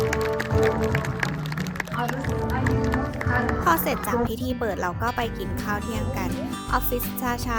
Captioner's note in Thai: ปรบมือ